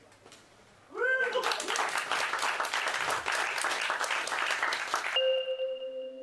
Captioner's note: applause